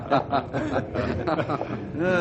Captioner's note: laughing